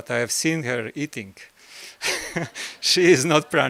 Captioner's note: laugh